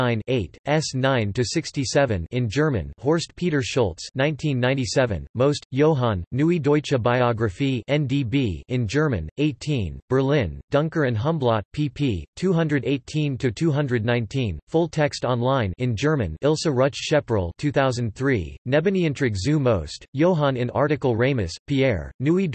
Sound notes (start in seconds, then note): 0.0 in German; 8.6 in German; 15.5 in German